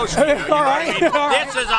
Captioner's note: laughs